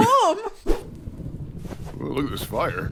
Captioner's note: fire flickering